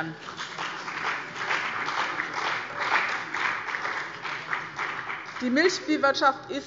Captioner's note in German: Beifall bei dem BÜNDNIS 90/DIE GRÜNEN und der CDU